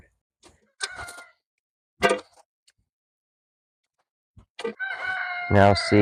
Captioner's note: peppers dropping in the bucket, rooster crowing in background